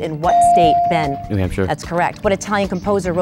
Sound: dinging

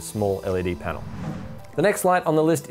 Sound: swoosh

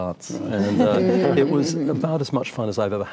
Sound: laughter

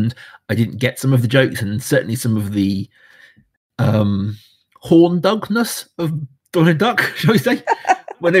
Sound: laughs

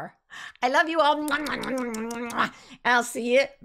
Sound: mimics kissing noises

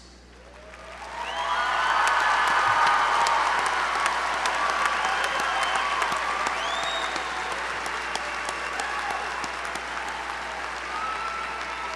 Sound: applause

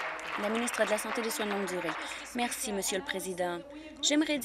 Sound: applause

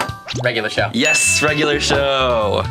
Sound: bell dings

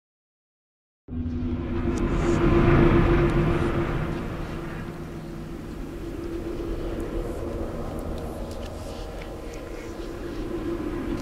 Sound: sound of temple rain

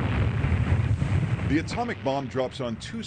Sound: bomb exploding

